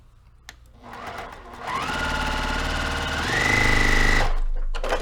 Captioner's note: sewing machine rattling